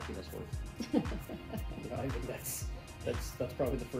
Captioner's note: chuckles